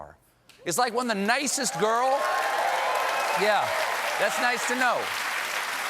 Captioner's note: applause